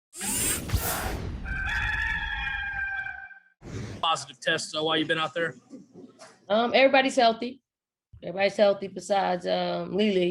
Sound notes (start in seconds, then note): 0.2 logo whooshing; 1.4 cock crowing